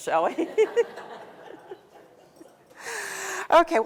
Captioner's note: laughter